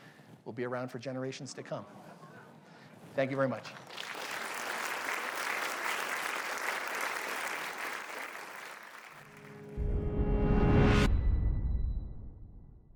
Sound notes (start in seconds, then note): 3.6 applause; 9.4 audio logo